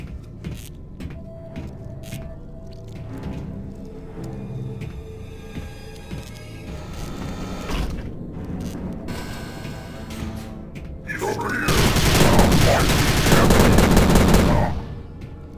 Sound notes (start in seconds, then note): none